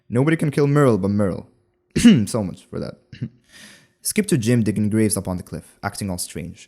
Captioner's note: cough